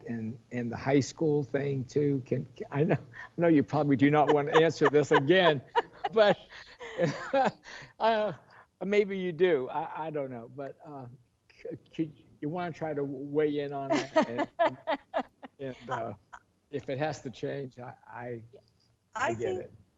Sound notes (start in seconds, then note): 4.1 laughing